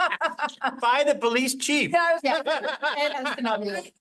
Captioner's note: laughs